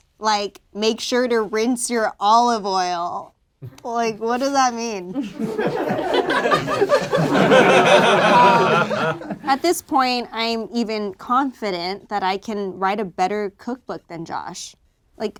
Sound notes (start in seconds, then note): 5.1 group laughs